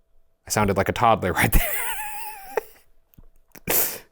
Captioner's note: laughs